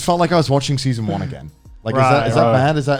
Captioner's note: laughing